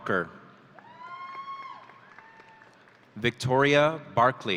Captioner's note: audience cheering